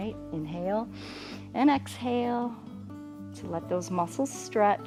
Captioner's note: inhales